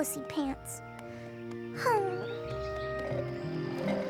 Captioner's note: sighs; slurping